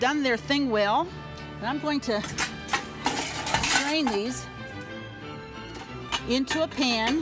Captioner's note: pans rattle